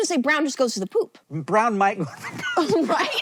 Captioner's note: laughing; laughs